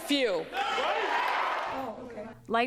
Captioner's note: cheering and applause